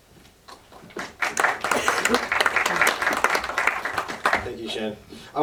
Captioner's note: crowd applause